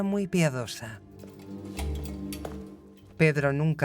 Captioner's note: keys clinking; lock clicking